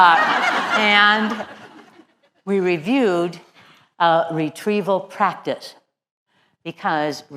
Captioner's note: laugh